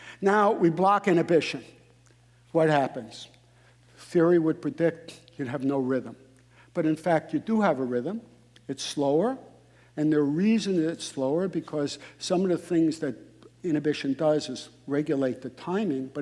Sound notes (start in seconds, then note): none